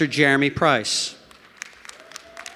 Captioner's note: applause